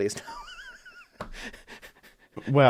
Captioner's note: laughs